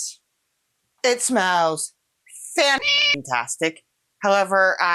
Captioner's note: meow